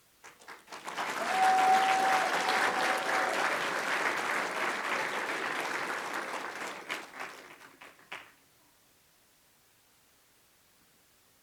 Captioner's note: applause